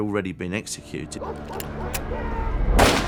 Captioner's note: gun clicks; gun fires